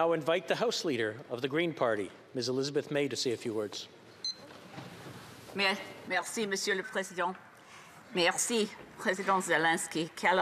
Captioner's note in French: voix de l'interprète